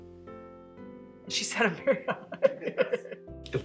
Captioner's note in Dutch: Gelach